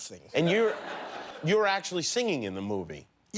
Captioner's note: laughter